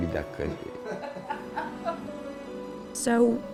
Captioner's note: laughing